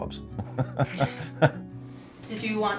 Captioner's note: laughing